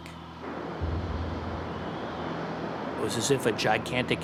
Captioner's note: waves crashing